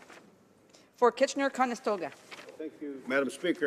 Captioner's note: speaking french